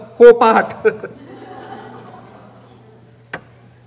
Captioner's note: laughing